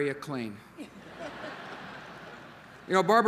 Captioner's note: laughter